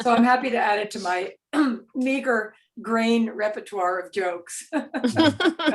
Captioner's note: laughs